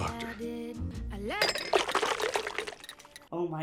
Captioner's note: spoon clatters